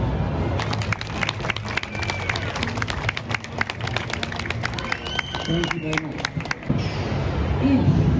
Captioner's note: clap clap clap